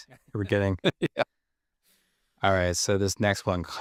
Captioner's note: laughs